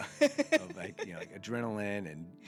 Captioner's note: laughing